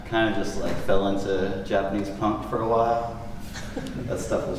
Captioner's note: soft laughter